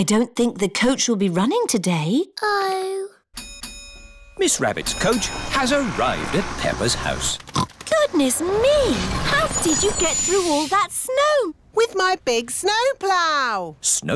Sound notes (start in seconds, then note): 3.3 coach bell dings; 7.5 oinks